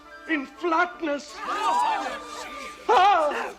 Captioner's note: crowd gasps